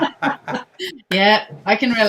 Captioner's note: laughing